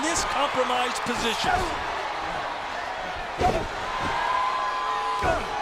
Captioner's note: crowd cheering